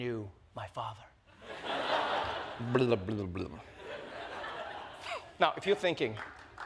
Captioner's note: laughter